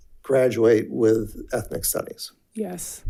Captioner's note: none